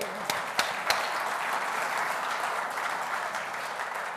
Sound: audience applauding

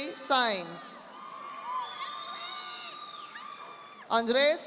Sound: audience applauding

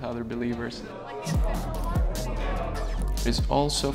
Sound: chatter

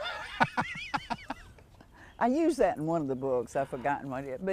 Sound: laughter

